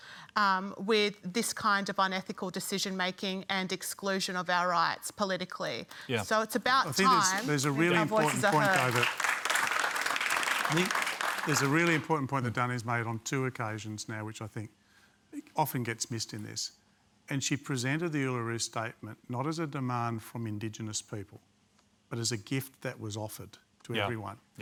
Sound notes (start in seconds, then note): 9.0 applause